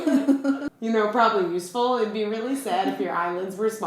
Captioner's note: laughter